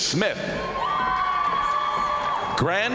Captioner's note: crowd cheering; crowd applauding